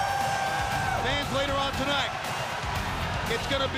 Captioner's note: crowd cheering